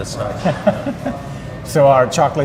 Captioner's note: laughter